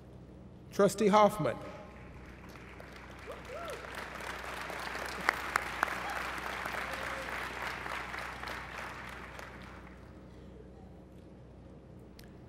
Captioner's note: applause